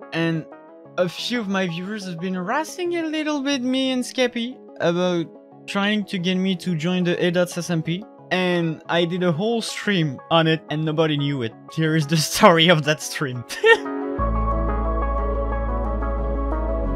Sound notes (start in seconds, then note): 13.4 upbeat music; 13.5 laughing